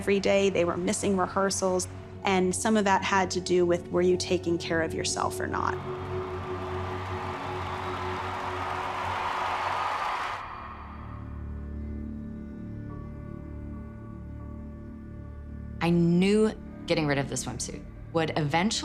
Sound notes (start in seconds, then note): 5.8 audience applauding and cheering; 10.1 ominous music intensifies